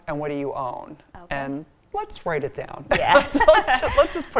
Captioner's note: laughs